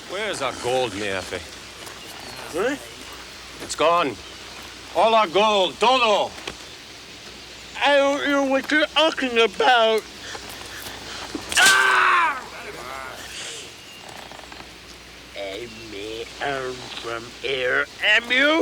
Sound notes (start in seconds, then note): 6.2 speaks Spanish; 11.4 Bruto screams